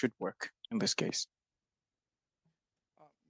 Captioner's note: speaking French